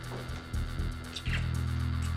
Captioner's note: kisses